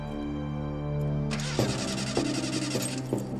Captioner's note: engine stalling